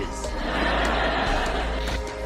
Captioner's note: audience laughing